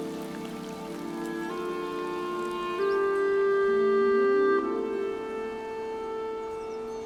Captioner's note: water pattering; light music continues